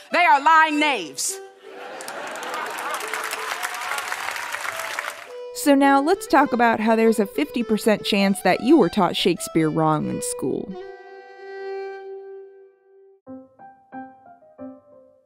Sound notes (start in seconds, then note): 1.6 laughter and applause